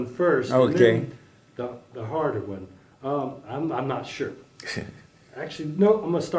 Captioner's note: laugh